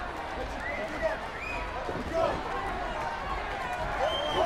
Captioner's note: crowd yelling